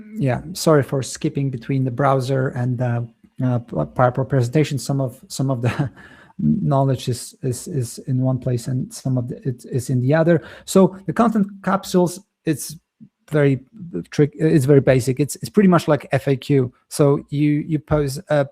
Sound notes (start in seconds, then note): 5.6 chuckles